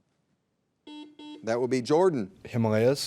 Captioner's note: buzzer buzzing